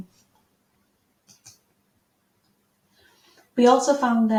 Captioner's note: mouse clicking